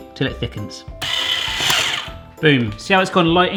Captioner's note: beaters spinning